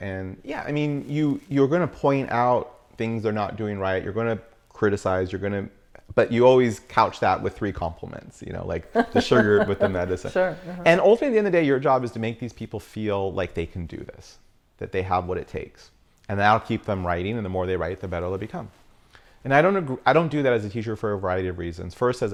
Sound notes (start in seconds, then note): 8.9 laughs